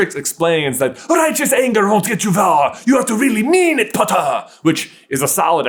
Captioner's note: French